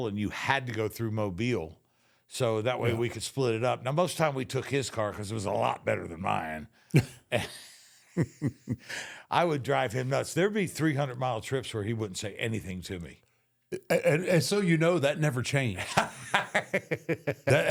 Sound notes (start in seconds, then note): 7.0 both laugh; 15.7 Michael laughs